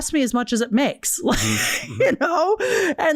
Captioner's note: laughs